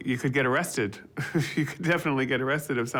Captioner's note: chuckling